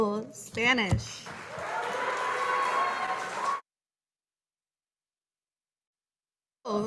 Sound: audience cheering and applauding

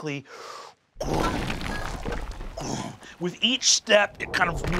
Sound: mimics booming footsteps

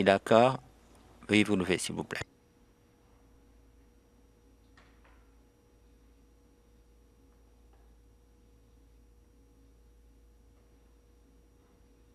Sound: moment of silence

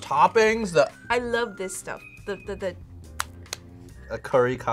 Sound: claps

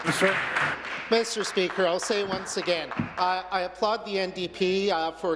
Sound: applause

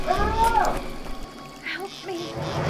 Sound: distant yelling

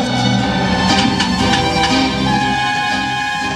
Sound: train whistle

